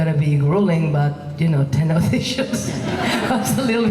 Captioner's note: laughing